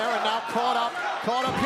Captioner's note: crowd cheering